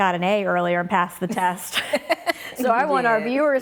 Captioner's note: laughing